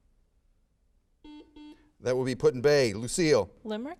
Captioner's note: buzzer sounds